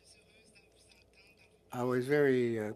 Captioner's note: speaking French